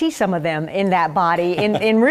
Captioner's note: laugh